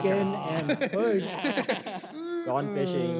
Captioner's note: laughter